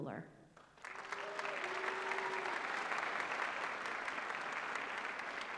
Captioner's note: applause